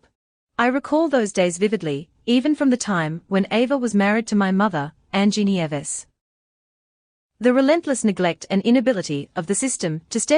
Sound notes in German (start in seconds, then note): none